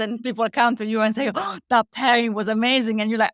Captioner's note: gasps